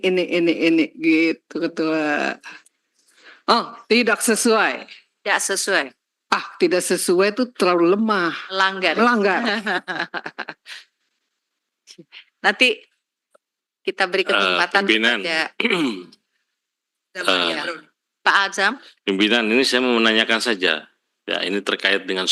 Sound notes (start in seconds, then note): 8.8 laughs